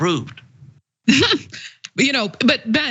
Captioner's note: laugh